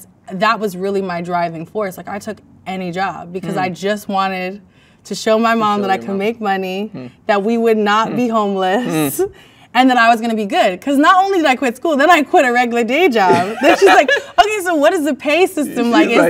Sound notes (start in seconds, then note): 13.2 man laughs